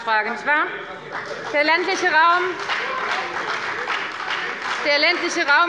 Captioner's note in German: Beifall bei der FDP und der SPD